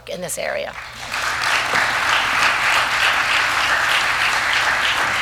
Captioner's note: applause